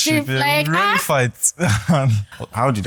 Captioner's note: laughs